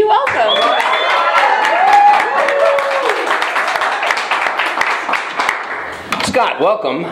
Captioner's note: applause